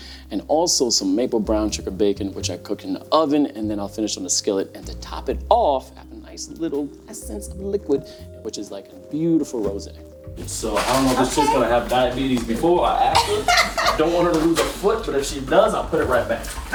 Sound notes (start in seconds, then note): 13.1 laughing